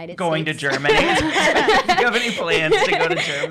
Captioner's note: laughing